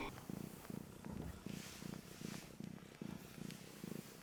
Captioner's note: heavy purring